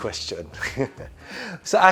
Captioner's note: giggles